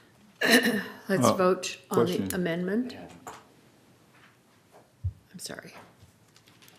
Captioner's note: speaking off microphone